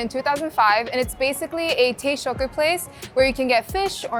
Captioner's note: speaking Japanese